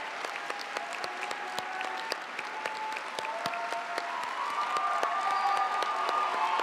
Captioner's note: audience applauding; audience cheering continues